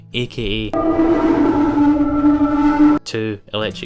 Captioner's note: heavy distortion